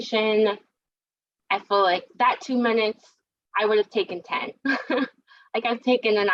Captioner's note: laugh